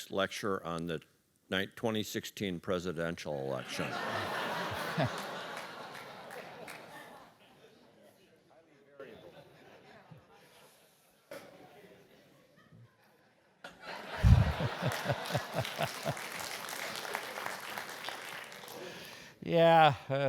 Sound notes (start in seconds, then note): 4.0 laugh; 8.8 applause; 17.3 laugh